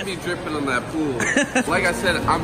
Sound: laughs

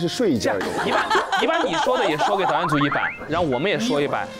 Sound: haHaHaHa

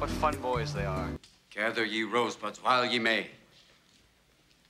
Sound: reciting

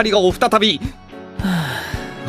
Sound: sigh

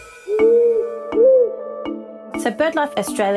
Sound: owl hooting

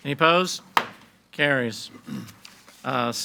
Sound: gavel bangs

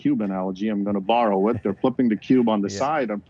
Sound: chuckles

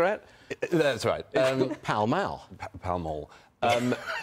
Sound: laughter

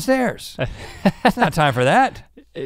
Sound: laughs

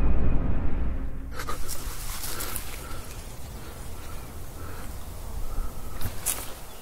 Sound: gasping for air

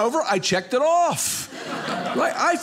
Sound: audience laughing

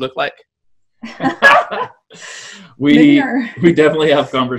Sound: laughs

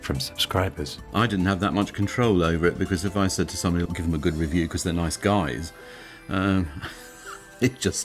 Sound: laughs

